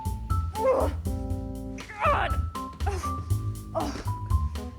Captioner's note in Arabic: تئن